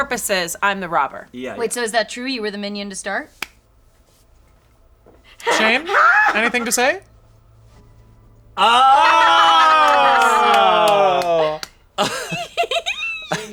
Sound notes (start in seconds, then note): 8.6 group jeering; 12.0 giggling